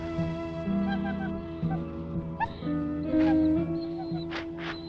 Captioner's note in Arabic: نباح الكلب; كلب يئن